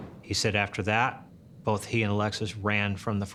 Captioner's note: gunshots